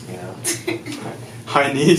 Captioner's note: laughing